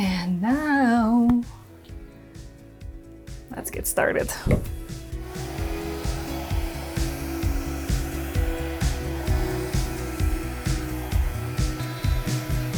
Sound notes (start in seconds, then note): 4.2 blower whirring; 5.0 pleasant music